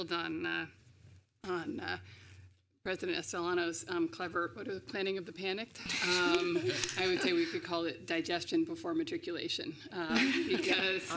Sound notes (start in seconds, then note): 5.7 laughter